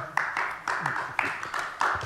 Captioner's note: applause